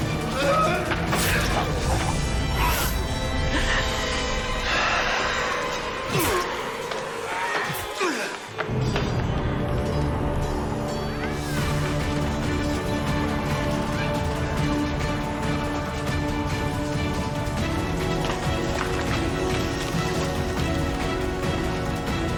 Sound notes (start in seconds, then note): 0.1 Cody groaning; 3.4 dramatic music; 4.6 Bathory gasping; 8.0 Bathory groaning; 8.0 dramatic music; 13.9 dramatic suspenseful music